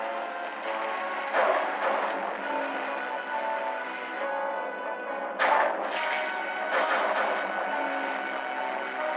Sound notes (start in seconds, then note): 1.3 gunshots; 6.6 gunshots